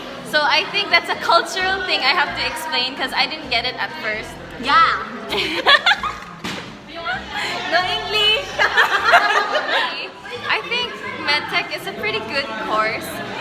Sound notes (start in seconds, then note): 5.2 laughter; 7.1 laughs